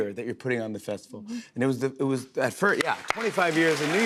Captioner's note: applause